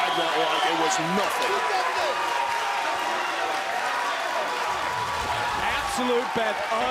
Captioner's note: crowd cheering